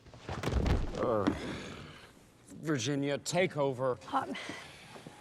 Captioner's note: sighs